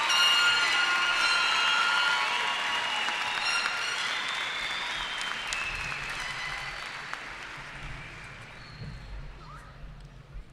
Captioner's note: cheering